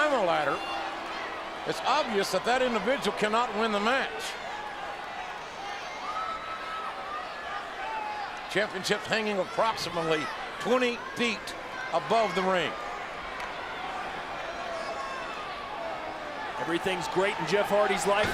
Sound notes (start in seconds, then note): 4.9 applause; 13.3 applause